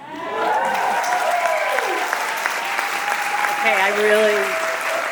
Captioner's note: audience applauding